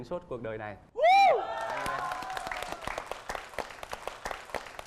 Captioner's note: cheering; applause